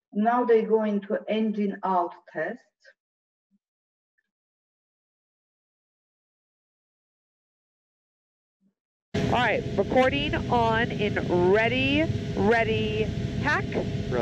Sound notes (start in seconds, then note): 9.2 engine humming